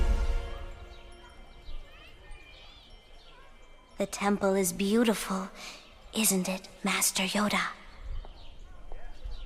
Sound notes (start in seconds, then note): 2.0 children playing; 9.1 children playing; 9.1 people chattering